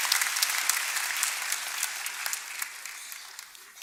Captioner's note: applause